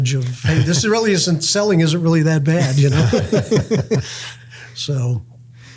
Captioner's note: laughs